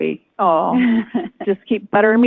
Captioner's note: laughs